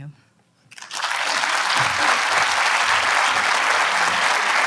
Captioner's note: audience applauds